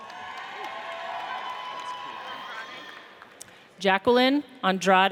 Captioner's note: audience cheers